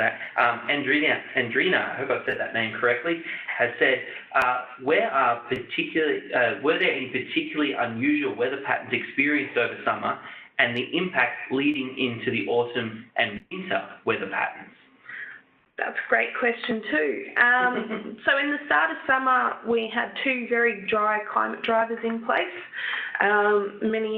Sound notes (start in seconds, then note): 17.6 chuckles